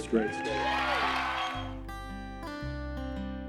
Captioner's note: applause; nostalgic music